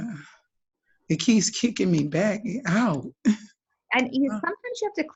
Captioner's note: laughs